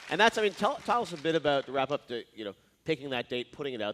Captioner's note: cheers and applause